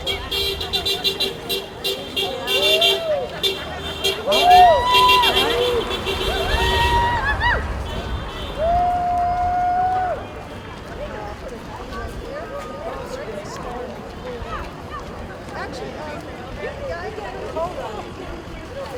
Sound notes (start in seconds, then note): 0.5 horn honking; 2.4 cheering; 11.2 crowd chattering